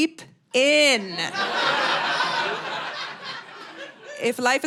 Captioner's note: audience laughing